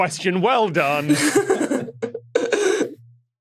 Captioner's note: guests laughing